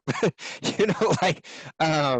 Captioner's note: chuckling